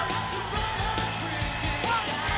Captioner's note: crowd cheering; upbeat rock music